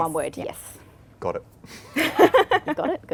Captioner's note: laugh